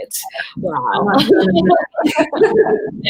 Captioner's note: all laugh